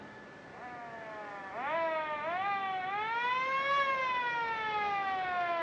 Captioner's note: siren Blaring